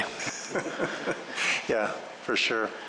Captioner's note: laughter